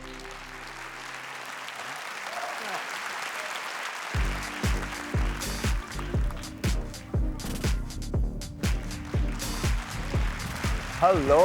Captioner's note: applause